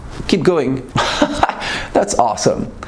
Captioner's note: laughs